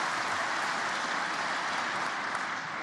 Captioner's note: applause